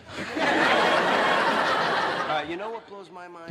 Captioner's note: audience laughter